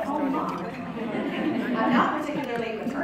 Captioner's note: crowd Chuckling